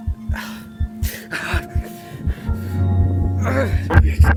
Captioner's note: gasps in pain; quick heartbeat and eerie hum